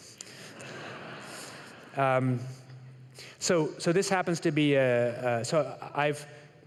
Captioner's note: laughter